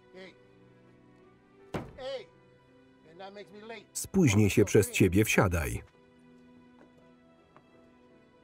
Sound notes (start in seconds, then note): 1.7 loud thud